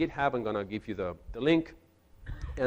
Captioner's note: none